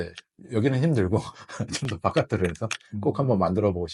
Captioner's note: laughs